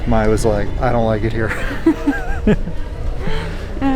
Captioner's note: laughs